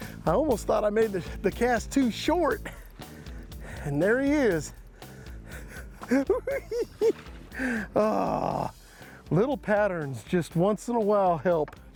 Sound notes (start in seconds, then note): 5.6 laughing